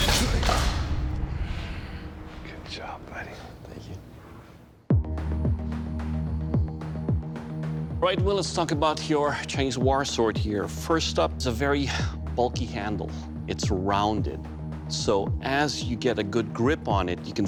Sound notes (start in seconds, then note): 1.1 whispering